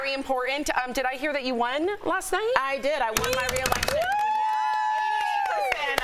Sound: applause

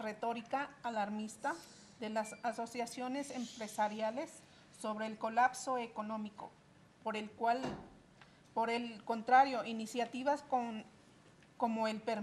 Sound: reading in spanish

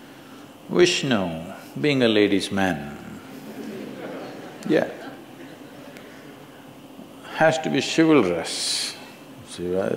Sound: laughter

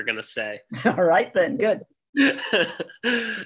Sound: laughs

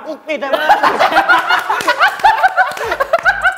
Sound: laughing out loud

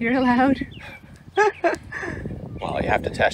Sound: laughing

